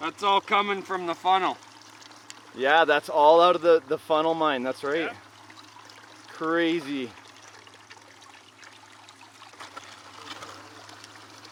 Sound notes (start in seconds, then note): 7.3 water flowing